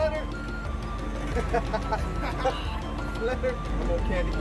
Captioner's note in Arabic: يضحك